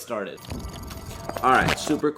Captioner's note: audio distorts dramatically